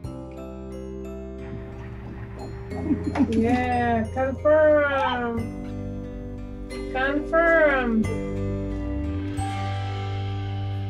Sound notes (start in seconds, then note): 1.5 baby heartbeat through ultrasound